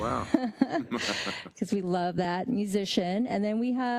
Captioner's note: laugh